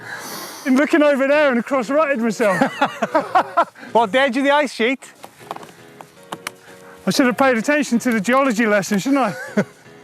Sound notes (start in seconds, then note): 2.4 laughs